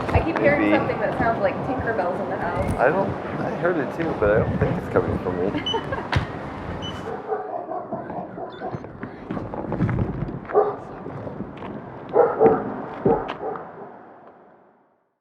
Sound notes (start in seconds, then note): 8.1 dog